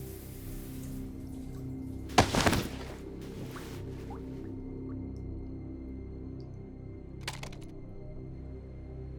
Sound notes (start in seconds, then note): 0.1 soft tense music continues; 2.1 towel flapping